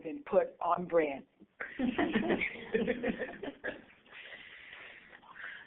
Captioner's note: laughter